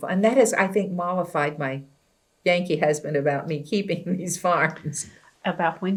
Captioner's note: laughs